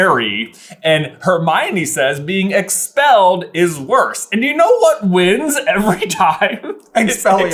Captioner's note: giggling